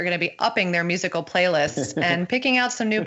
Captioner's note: laughter